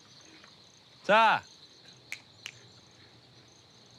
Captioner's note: snaps